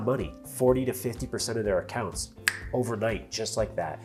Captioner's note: snaps fingers